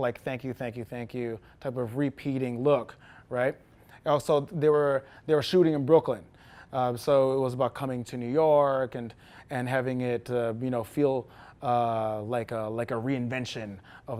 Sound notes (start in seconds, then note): none